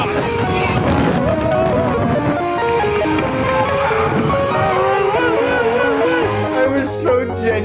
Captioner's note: lots of WAIT WAIT WAIT noises